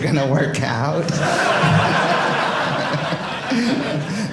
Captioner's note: audience laughing